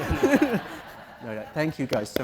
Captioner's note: audience Laughing